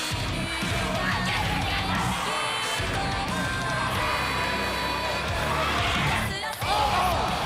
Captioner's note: cheers and applause